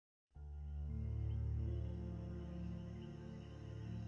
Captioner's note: insects chirping